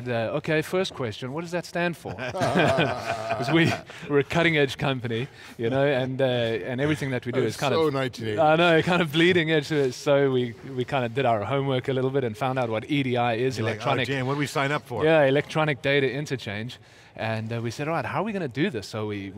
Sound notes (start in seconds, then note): 2.1 laughing